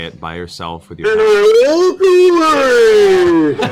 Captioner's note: booming